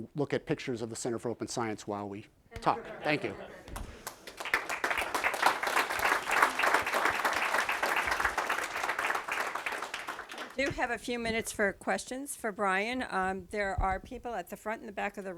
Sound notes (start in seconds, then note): 5.2 applause